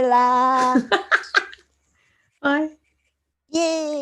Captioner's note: laughing